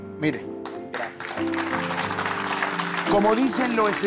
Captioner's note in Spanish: Aplausos